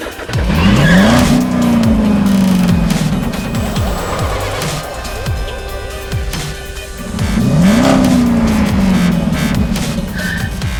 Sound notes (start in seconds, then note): 0.5 engine roaring; 3.1 upbeat techno music; 7.4 engine roaring